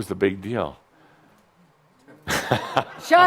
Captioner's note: chuckles